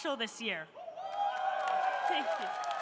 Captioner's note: audience cheering; audience applauding